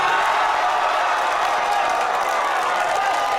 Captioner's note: cheering